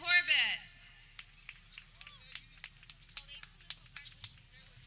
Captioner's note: people clapping